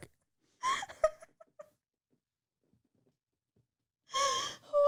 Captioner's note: laughing